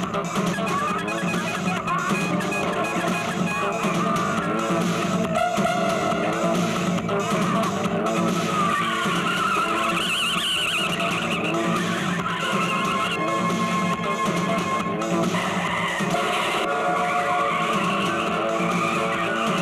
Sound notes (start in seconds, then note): 0.1 horn blares; 8.5 tires squealing; 15.3 tires squealing and car hits